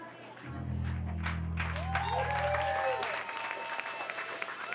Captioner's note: crowd cheering